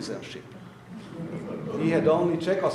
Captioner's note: audience laughing